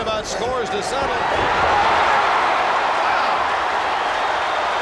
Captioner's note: audience cheers